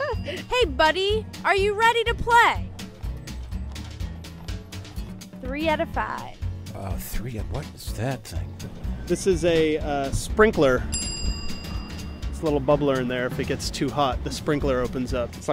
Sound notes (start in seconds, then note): 10.9 ding